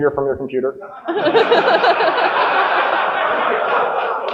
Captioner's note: audience laughing